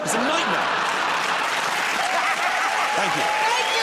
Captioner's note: laughter and applause